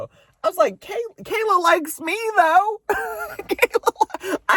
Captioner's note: laughs